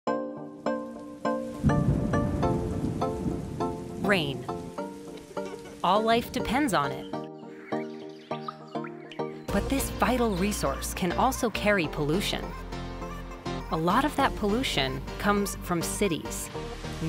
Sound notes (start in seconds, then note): 0.1 upbeat music; 1.5 thunder rumbling